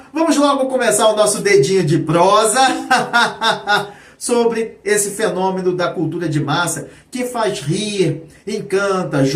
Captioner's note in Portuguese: risadas